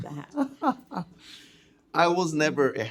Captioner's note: laughing